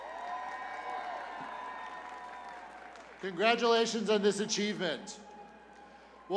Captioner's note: cheers and applause